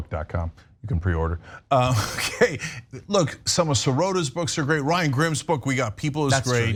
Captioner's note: laugh